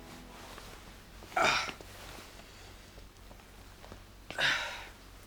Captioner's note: Lex groans